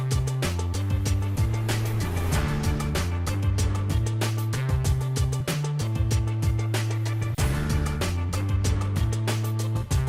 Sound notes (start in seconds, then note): none